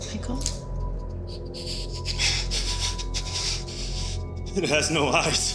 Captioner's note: Michael panting